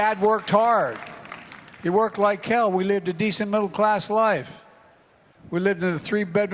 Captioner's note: applause